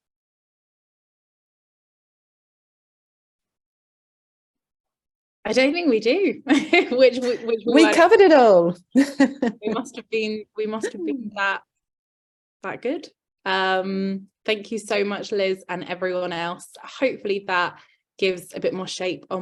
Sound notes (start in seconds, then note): 6.4 laughs